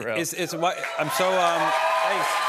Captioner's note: cheers and applause